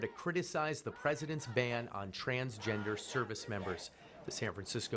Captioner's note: chanting